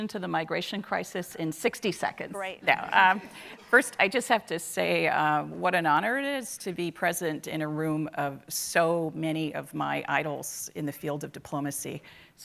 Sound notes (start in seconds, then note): 3.5 audience laughing